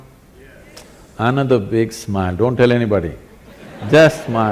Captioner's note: laughter